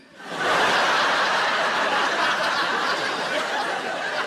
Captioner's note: audience laughing loudly